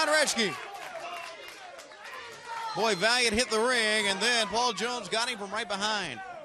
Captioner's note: crowd chatter